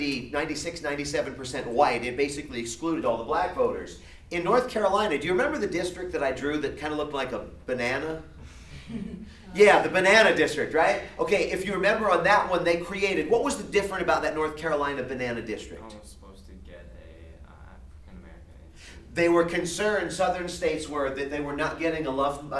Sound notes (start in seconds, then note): 8.7 laughter